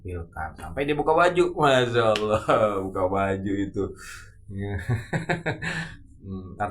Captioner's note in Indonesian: tertawa